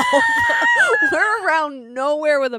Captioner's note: laughing